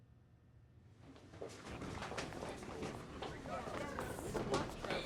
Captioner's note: indistinct chatter